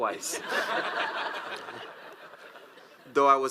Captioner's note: audience laughs